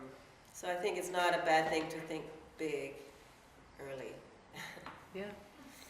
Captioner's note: laughs